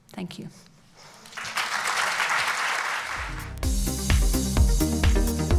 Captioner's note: applauds